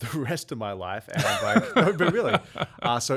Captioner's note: laughing